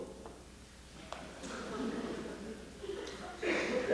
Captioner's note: laughter